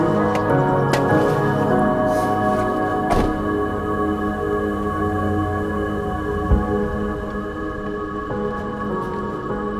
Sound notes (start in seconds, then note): 2.0 door closes